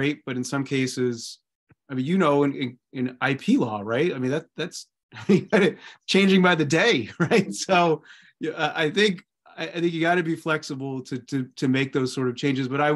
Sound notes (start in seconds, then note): 5.1 laughter